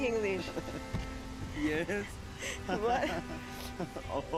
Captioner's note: chuckles